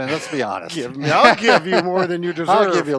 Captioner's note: laughs